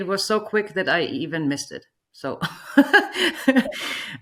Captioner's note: chuckles